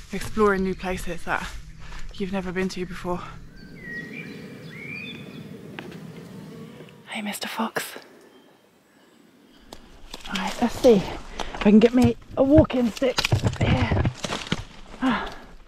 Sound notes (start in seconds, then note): 4.0 bird song